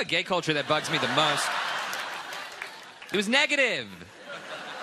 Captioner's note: laughter; laughter